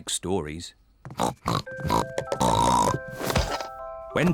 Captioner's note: snorting